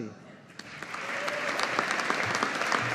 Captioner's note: audience applauding